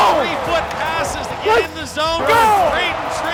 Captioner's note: crowd yelling; sticks clacking